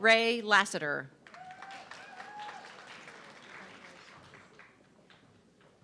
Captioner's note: audience clapping